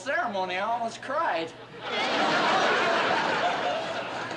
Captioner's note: laughter